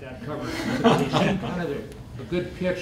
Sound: laughter

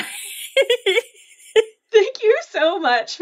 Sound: laughing

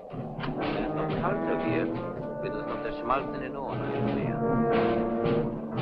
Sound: speaking in a foreign language

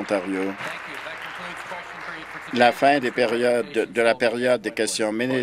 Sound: applause

